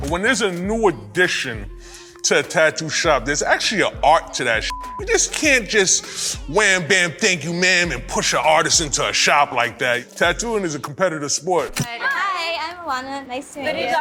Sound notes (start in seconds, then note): 4.6 beep